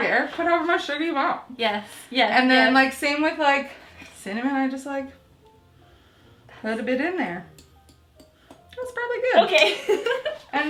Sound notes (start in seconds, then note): 7.5 tapping on glass; 10.0 laughing